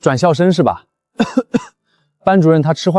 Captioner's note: ahem